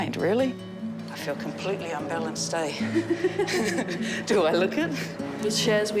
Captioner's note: both chuckle